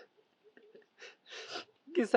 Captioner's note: sobbing